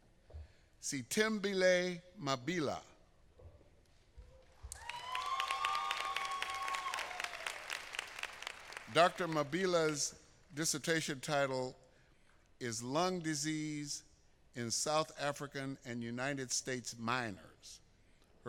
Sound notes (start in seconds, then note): 7.2 applause